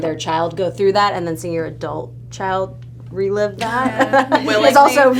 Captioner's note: laughs